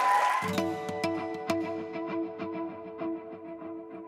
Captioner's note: applause